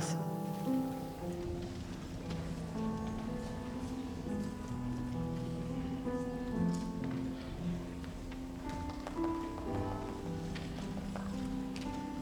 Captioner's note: mixed with cheering/applause